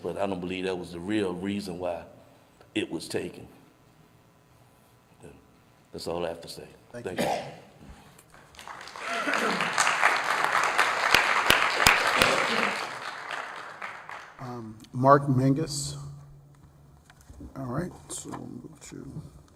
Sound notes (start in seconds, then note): 13.9 applause